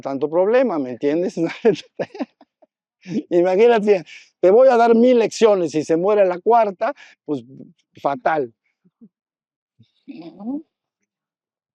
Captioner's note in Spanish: risas